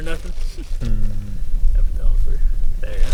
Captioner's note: chuckles